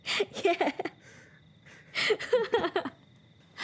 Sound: laughter

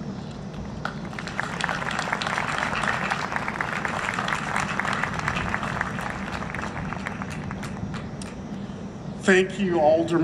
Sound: applause

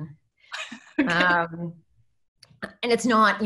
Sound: laughs

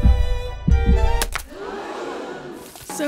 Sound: gasping

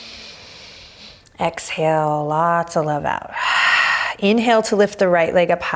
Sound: inhaling deeply; exhaling strongly

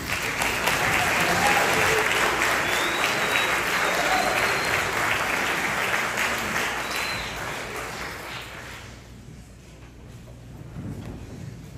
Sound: applause

